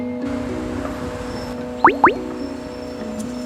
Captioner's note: notification